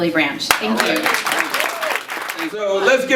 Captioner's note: audience applauding and cheering